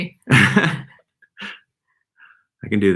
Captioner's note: laughing